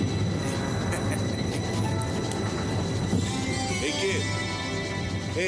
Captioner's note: chuckling